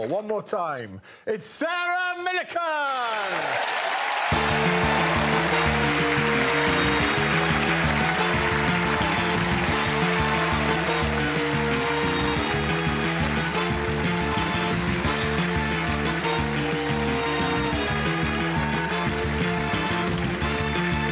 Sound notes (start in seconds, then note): 5.7 cheering; 7.3 theme music playing